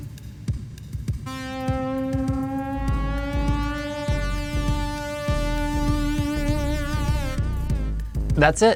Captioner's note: electronic Tone